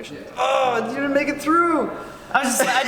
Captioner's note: groans